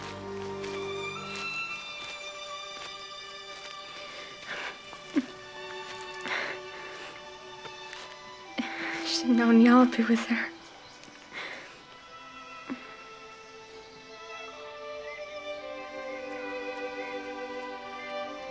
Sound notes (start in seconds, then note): 0.1 birds chirping; 2.4 somber music; 12.6 gentle music; 15.5 cats mewing